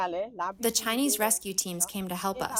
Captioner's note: through translator